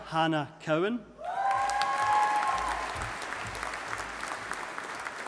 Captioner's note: audience applauding